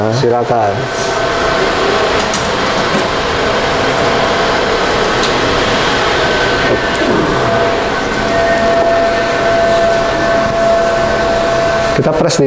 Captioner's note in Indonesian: suara mesin